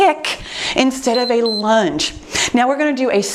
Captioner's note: timer beeps